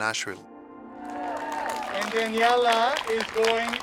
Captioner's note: applause